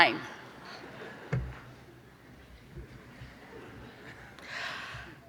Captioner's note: clapping